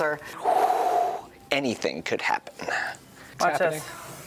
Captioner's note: exhales